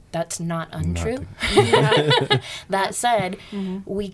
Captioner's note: laughing